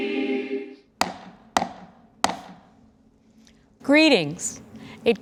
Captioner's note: gavel banging on table